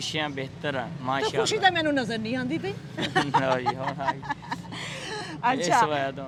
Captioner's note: laughing